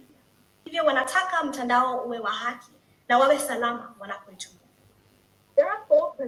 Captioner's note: foreign